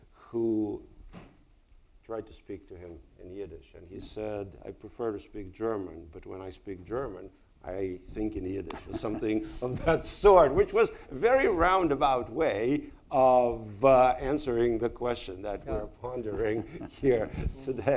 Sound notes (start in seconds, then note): 8.6 chuckles